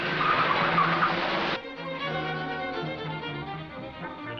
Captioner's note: car engine purrs; tires screech